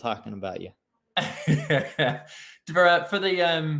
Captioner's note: laughing